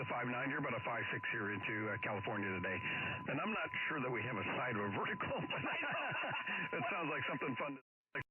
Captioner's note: audio from off-air QSO